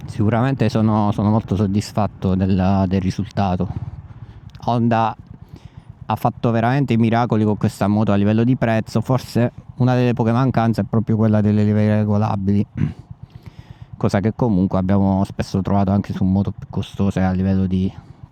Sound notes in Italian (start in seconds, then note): 12.7 schiarire la voce